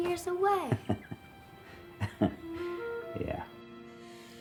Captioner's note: laughs